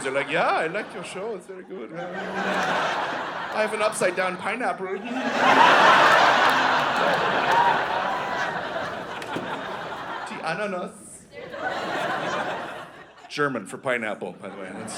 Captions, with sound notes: like, “Yeah, I like your show. (Austrian accent) It's very good. (Austrian accent) (Audience laughing) I have an upside down (Austrian accent) pineapple.” (Austrian accent) (Audience laughing) Ananas (Audience laughing) German for pineapple, by the way.